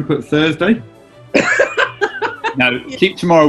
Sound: laughing

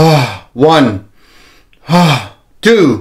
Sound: inhale and exhales

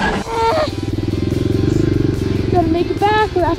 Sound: groans

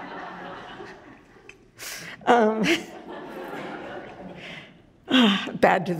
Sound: audience laughs

